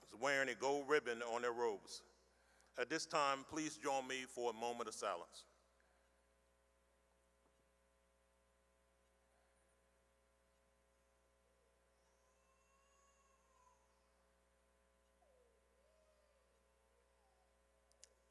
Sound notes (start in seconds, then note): 5.6 silence